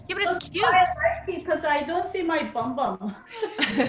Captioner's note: laughs